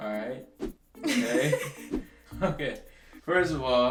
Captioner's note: laughs